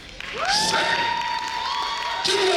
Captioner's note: audience cheering